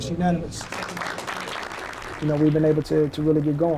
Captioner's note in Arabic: الناس يصفقون